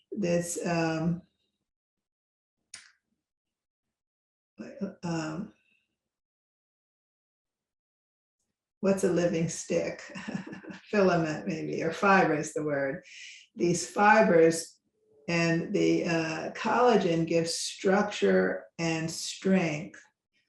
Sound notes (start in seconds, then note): 10.1 laughs